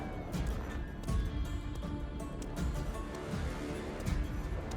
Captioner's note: tense music; slow footsteps; tense music